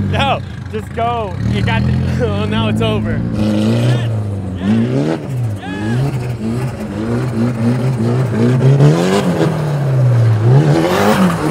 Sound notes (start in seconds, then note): 3.5 engine revving; 3.5 shouting in background